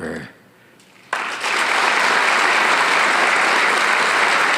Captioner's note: audience applauding